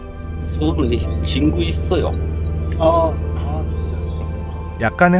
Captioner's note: Korean